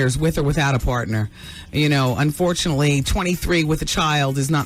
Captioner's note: none